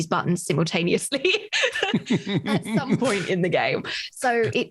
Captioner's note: laughs